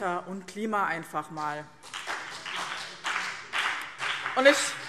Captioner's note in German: Beifall BÜNDNIS 90/DIE GRÜNEN